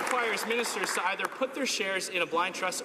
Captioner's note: some Applause